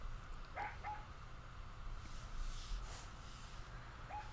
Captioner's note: Super Piggy barking